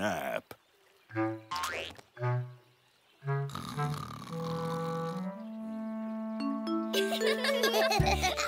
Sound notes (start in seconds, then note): 3.5 snoring; 6.9 laughing